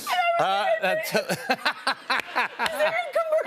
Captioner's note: laughs